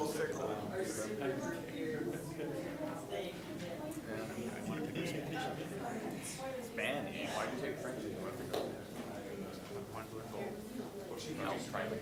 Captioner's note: general chatter